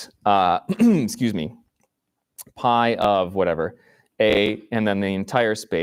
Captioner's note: clears throat